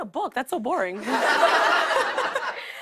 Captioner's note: laughter